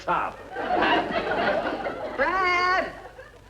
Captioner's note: audience laughing